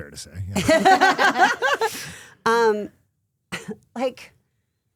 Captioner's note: laughing